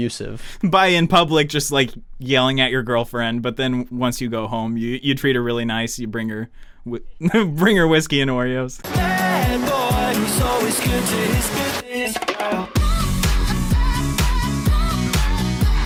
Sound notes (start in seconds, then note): 7.2 laughs